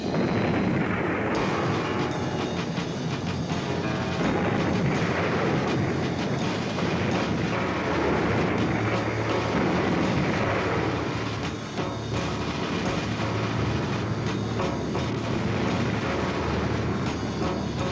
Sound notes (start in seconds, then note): 0.1 explosions blasting; 0.1 tense dramatic music; 12.3 airplane engines whirring